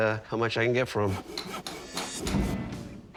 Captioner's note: construction tools clanking